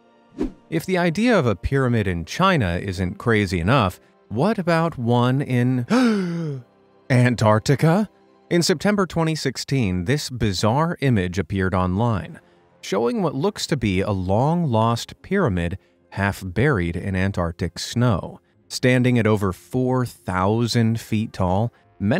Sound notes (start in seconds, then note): 0.4 picture swooshes; 5.8 gasps